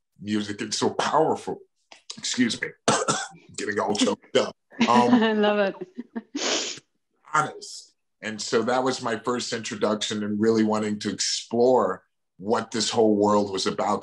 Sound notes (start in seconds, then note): 2.1 coughs; 4.8 laughs